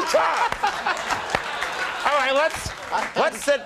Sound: crowd laughing

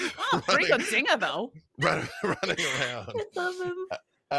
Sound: laughs

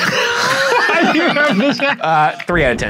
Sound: laughing

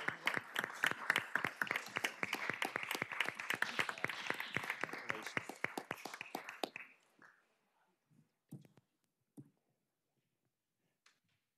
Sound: applause

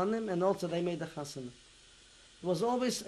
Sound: non-english

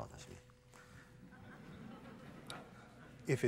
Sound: laughter

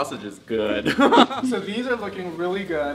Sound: both chuckling

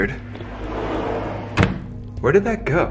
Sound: door clicking

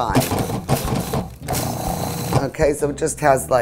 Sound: processor grinding

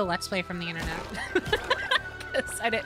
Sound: laughter

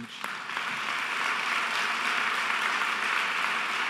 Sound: audience applauding

